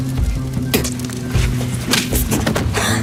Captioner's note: Ruth spitting; Uncle smacking Ruth